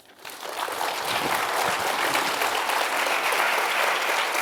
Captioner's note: audience applauding